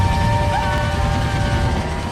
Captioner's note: screaming